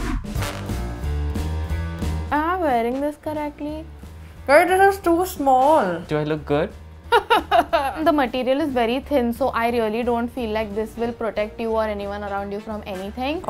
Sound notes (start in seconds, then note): 0.0 upbeat music; 7.1 chuckles